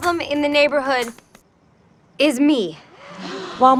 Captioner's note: people gasp